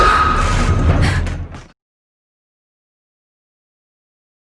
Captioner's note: dramatic music; high pitched scream